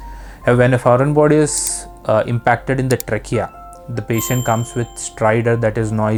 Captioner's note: noisy breathing